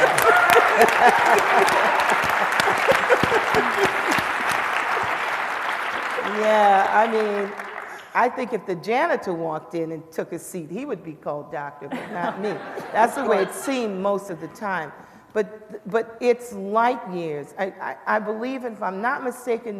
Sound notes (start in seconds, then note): 4.5 laughter; 10.5 applause